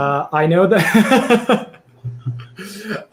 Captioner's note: laughs